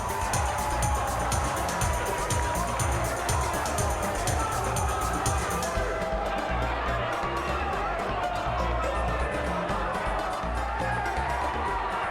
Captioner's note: cheers and applause